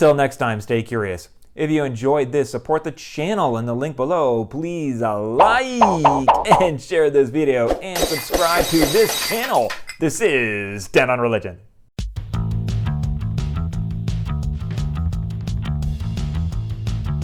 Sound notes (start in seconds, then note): 5.4 popping noises; 7.9 glass breaking